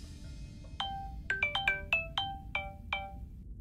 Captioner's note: Phone ringing